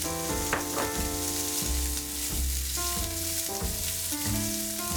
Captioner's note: bacon sizzling